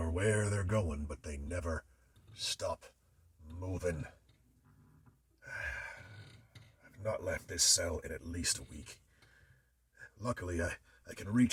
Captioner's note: sighs